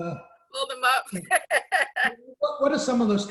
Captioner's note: laughs